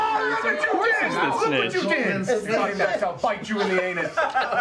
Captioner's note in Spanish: gritando